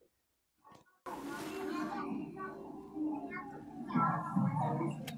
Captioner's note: children talking